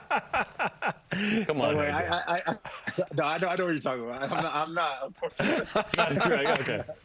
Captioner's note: laughter